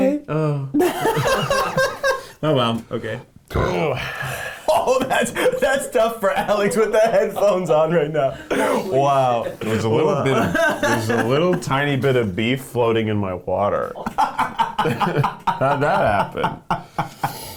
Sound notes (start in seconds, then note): 0.8 laughing; 3.5 burps; 14.0 laughing